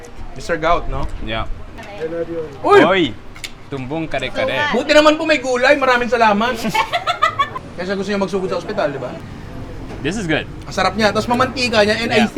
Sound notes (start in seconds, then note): 6.4 laughs